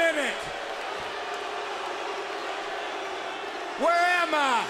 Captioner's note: audience jeering